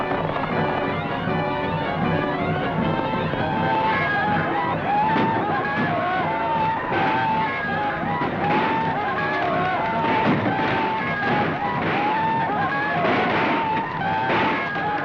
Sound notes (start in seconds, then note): 3.7 screaming